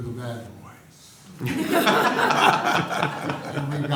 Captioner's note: laughter